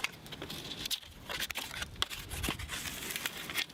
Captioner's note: loud scraping